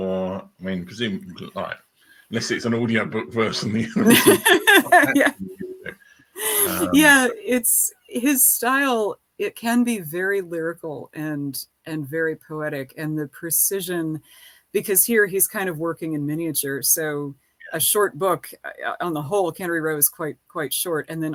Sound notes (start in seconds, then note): 3.4 laughing